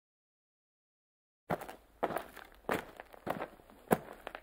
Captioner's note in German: Schritte auf Kies